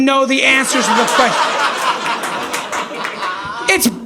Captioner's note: audience laughing